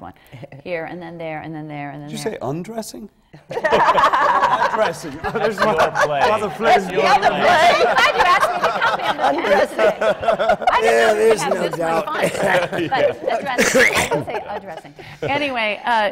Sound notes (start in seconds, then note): 3.7 laughter